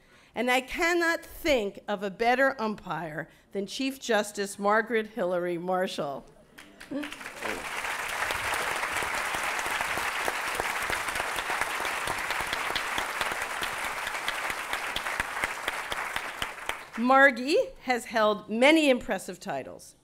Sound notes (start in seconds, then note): 6.5 applause